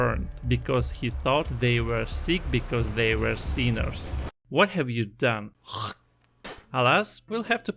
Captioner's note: spit